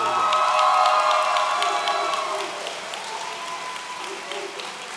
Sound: audience cheering

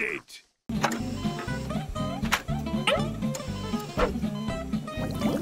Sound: beeping

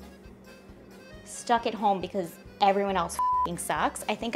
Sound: beep

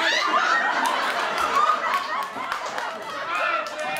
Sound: audience laughter

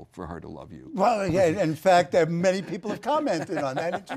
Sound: laugh

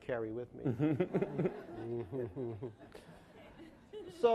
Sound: laughing

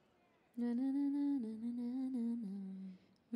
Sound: humming

